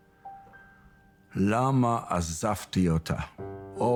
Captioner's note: speaking in foreign language